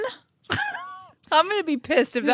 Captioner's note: laughs